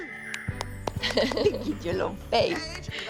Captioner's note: laughs